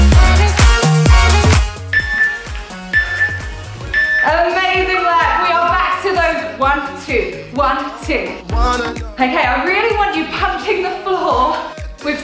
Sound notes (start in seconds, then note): 1.9 workout timer beeping